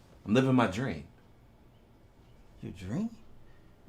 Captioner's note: none